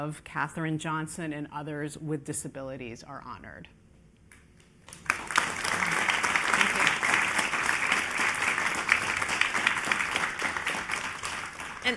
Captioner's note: applause